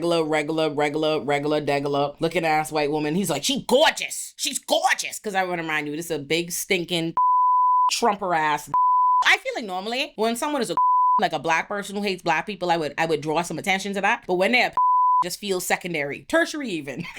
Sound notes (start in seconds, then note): 7.2 beep; 10.7 beep; 14.7 beep